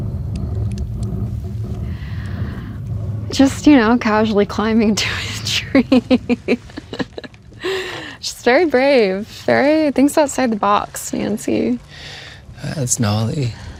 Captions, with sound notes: - Just, you know, casually climbing into a tree. (laughs) She's very brave. Thinks outside the box, Nancy. - That's gnarly.